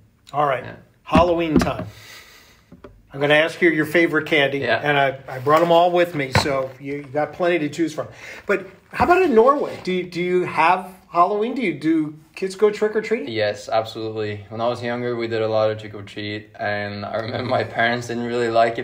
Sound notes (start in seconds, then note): 4.4 hand thuds